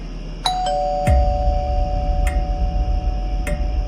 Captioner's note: scary music, crickets; doorbell, scary music, crickets; scary music, crickets